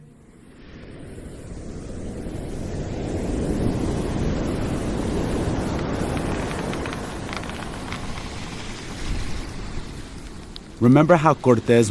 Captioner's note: soundbite of wind blowing, waves crashing